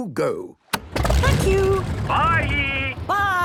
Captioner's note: engine starting